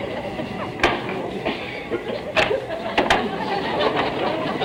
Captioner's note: door bolts unlocking